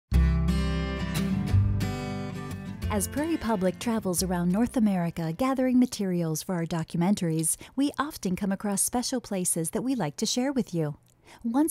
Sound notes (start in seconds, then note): 0.1 guitar strum; 3.0 voiceover